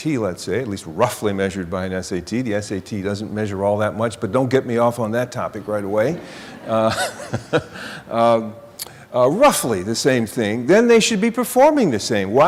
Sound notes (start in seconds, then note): 6.0 laughter